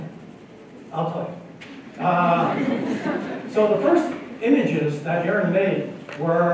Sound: laughter

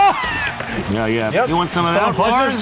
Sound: yells

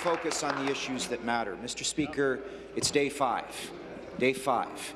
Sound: applause

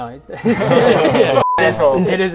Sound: nervous laughter

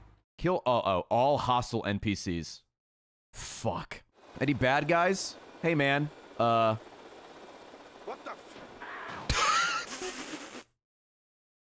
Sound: laughs

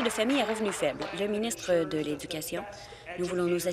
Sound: applause

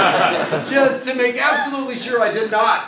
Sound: laugh

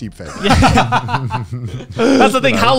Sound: everyone laughs

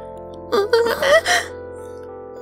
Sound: gasps

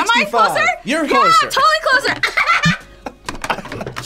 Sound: laughs

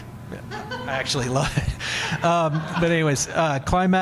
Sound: audience laughing

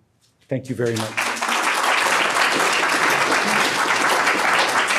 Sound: crowd applauds

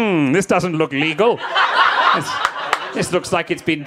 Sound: audience laughing

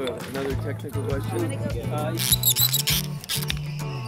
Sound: wood squeaking

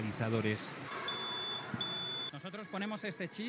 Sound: Nagi beeps

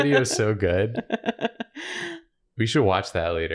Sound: continued laughter; laughter

